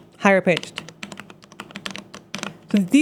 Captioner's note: keyboard clicking